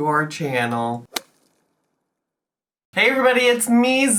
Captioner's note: slapping sound effect